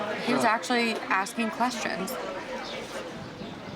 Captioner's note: none